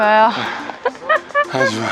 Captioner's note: laughter